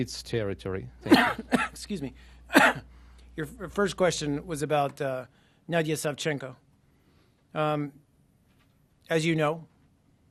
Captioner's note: coughing